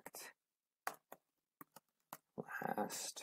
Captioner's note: typing